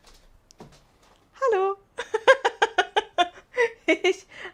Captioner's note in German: Gelächter